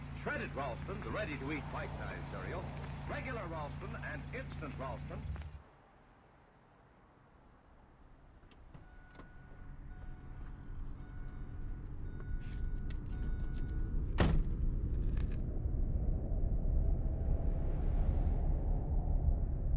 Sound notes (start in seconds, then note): 8.6 car door chimes rhythmically; 9.3 suspenseful music; 14.1 car door slams